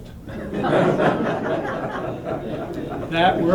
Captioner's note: laughter